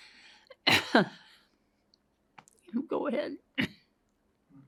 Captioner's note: coughs